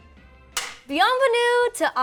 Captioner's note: clapboard snapping